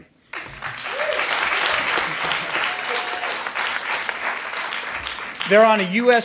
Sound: audience applauding

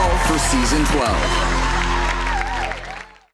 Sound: cheering

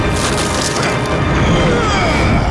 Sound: grunting

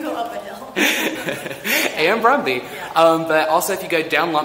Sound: both laughing

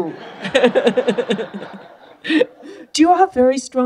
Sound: laughter

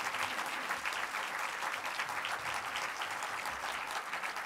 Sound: applause

